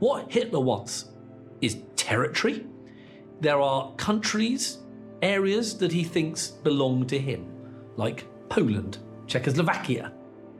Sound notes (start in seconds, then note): none